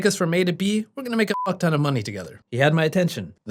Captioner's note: beep